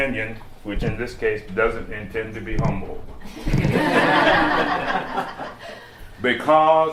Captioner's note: laughter